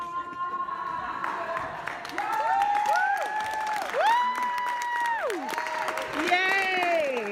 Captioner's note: audience clapping; audience cheering